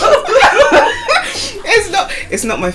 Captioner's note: laughter